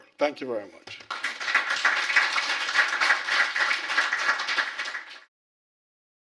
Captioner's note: applause